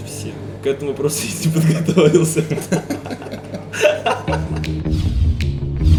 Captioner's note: laughs